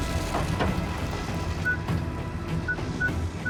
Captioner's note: beeping